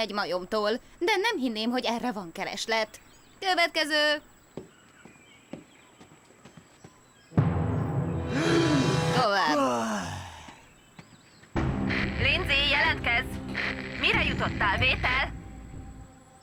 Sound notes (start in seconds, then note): 8.2 exhales; 8.2 inhales